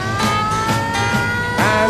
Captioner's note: siren blaring